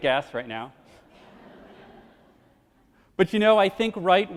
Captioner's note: crowd laughs